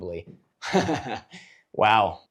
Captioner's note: up close and personal laugh